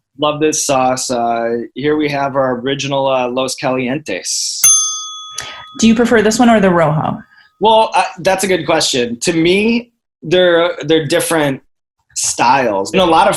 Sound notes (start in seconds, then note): 4.6 ding